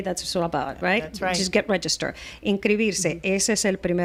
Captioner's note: Hablando ingl\s